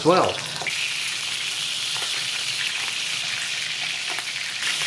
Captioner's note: more sizzlin